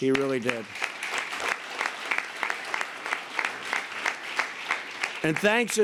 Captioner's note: applause